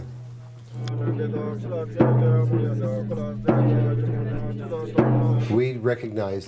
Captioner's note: chanting